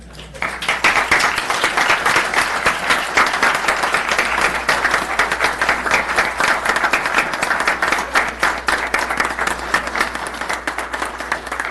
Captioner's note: applause